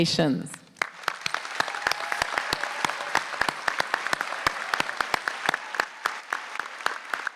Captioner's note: applause